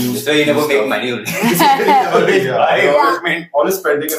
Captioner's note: laughs